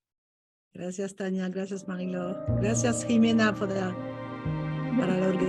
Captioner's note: speaking in Spanish; pensive music